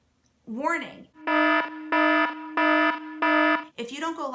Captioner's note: siren wailing